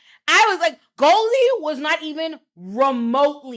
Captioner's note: none